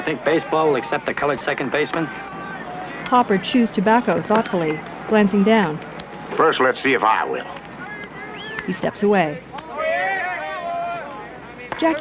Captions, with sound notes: a colored second baseman? First, let's see if I will. [jovial yells and cheers] whack